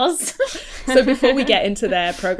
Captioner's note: hosts laugh